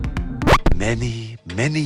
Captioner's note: record scratch